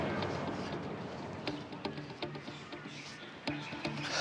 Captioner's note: birds tweeting